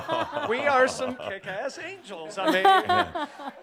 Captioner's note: more chuckles; chuckles